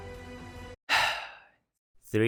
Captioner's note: sigh